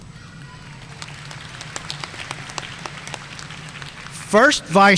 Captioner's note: audience applauding